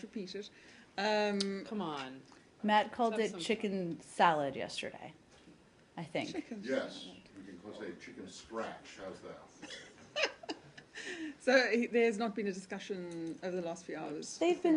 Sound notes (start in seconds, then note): 9.6 laughter